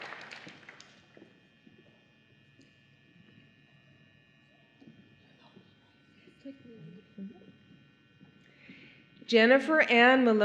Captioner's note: applause